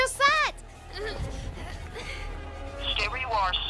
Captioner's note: girls groaning